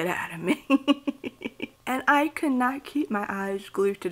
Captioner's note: laughs